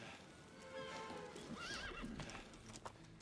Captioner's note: horse whinnies